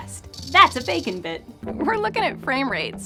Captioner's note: spicy rattle!